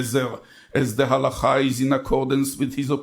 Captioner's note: speaks in foreign language